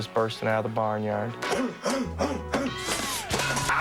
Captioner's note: grunting